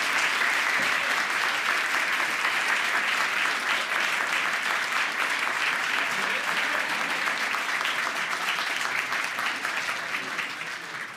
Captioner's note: applause